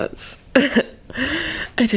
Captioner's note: laughs darkly